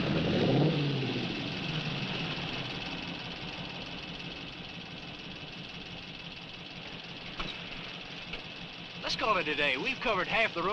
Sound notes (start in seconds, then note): 1.2 engines idling